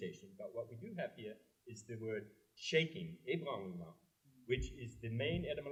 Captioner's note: french